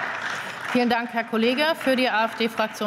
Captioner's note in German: Beifall